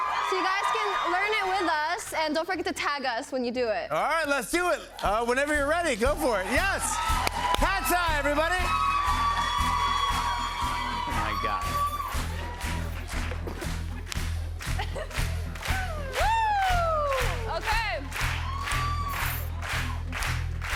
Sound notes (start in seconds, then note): 8.8 cheers and applause